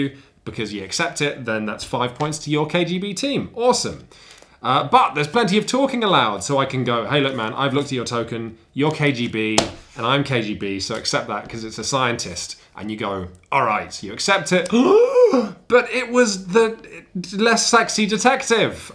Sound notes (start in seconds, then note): 15.2 gasp